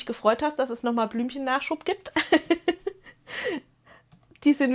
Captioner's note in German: gelächter